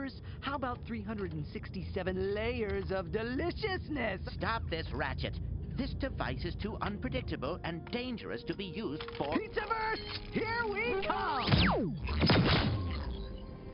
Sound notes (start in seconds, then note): 11.4 zapping